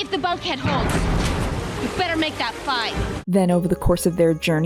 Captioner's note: booming sound